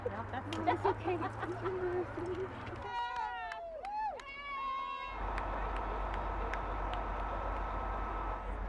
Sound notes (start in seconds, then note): 3.1 crowd cheering